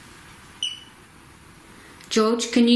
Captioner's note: beep